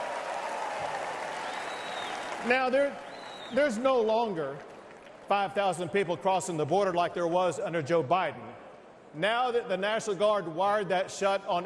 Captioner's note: cheers and applause